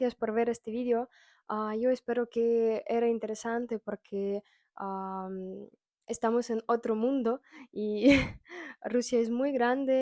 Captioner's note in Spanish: risas